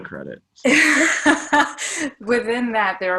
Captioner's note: laughing